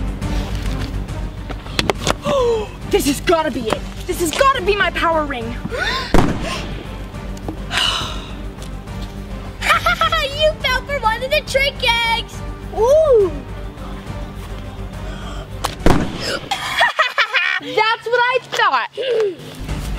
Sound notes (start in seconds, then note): 2.2 gasps; 6.1 pop sound; 7.6 sighs; 9.6 laughs; 15.6 pop sound; 16.3 laughs